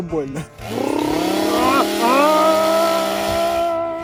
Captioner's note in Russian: звук бензопилы